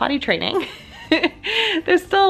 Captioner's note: laughs